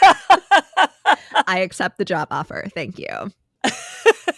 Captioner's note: both Laughing